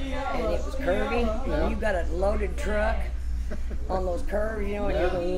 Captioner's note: laughs